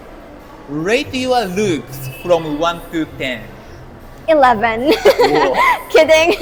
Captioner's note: laughs